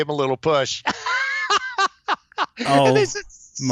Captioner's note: laughs